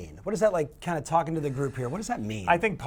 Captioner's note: none